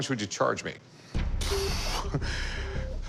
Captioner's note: exhales